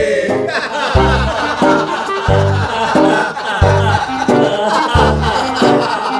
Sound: laughing

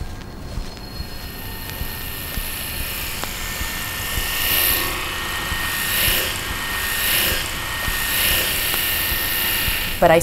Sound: razor sounds

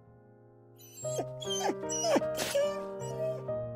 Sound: whine

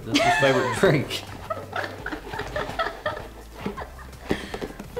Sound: laughing

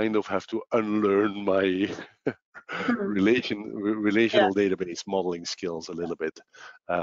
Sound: laughs

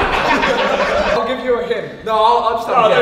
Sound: group laughs

